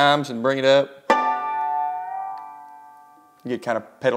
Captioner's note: sharp chimes